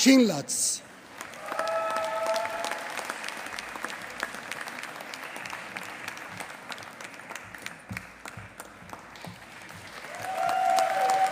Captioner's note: applause